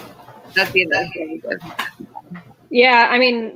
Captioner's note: radio interference drowns out speaker